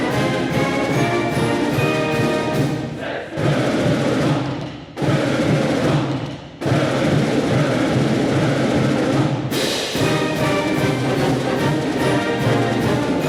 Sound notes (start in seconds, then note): 1.6 students chanting; 10.0 joyful upbeat music